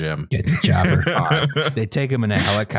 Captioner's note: laughs